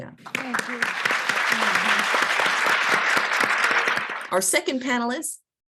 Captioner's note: applause